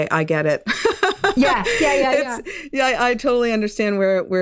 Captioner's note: laughing